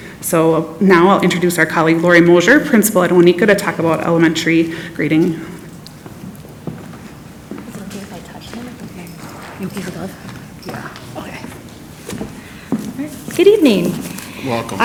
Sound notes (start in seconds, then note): 6.7 foot steps receding